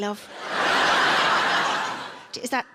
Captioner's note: audience laughs